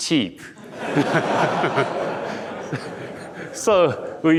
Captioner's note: audience laughing